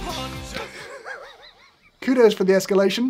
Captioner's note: laughs